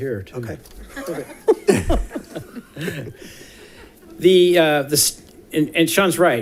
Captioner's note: laughing